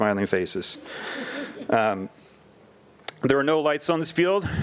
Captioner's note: attendees and board members laughing